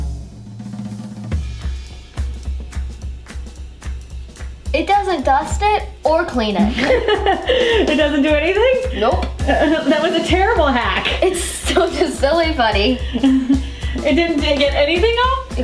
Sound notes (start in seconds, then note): 0.1 percussion music; 6.6 laughing